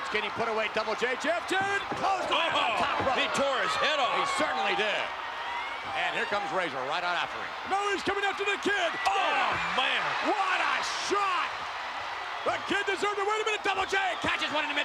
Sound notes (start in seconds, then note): 11.8 spectators cheering